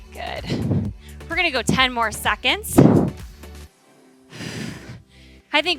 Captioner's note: exhales